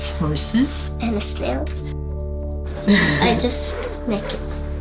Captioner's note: chuckles